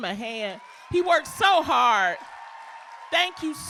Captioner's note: applause